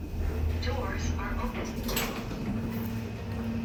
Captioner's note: doors are opening